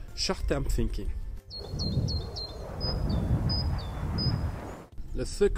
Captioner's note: birds singing; plane whooshing